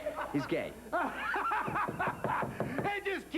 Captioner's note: knock on door